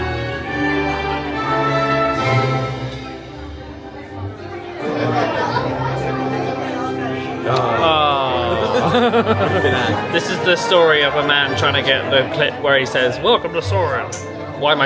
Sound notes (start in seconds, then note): 4.6 people chatter; 7.7 both exclaim